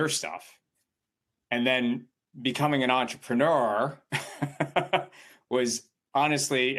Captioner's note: chuckles